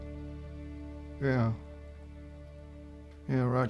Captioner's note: scottish accent